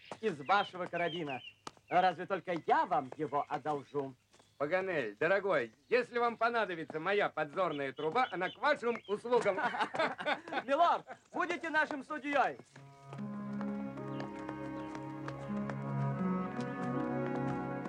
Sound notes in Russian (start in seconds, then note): 9.2 смеются; 12.9 плавная музыка